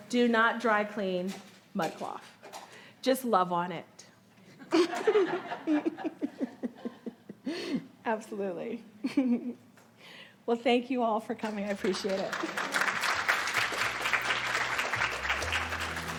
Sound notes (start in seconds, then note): 4.6 audience laughing; 11.8 audience applauding